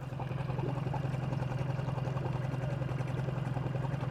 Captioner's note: boat engine droning